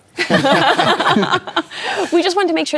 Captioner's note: laughter